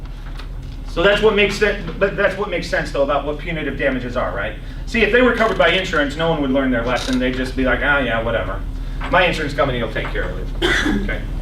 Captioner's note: coughs